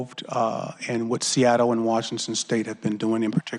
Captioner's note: laughter